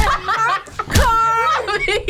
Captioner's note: React laughs; laughs